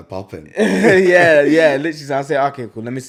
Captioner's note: laughs